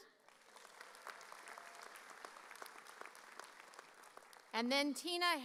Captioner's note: audience applauding